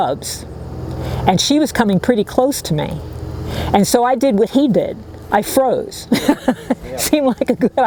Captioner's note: laughs